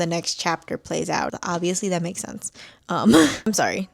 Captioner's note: laughs